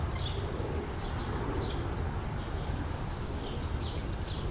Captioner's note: birds chirping